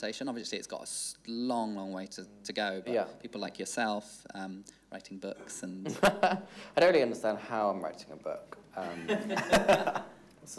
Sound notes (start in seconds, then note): 6.0 laughing; 8.8 all laughing